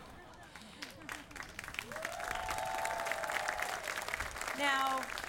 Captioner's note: audience applauding